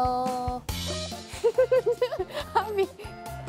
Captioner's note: burst out in laughter